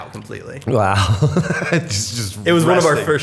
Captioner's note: chuckle